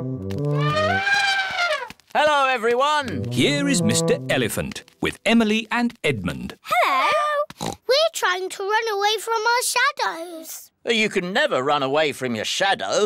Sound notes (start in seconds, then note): 0.0 trumpets; 7.6 oinks